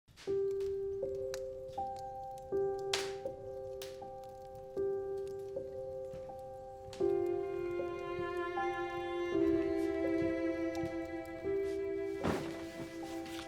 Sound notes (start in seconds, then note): 0.1 slow, gentle music; 4.7 fire crackling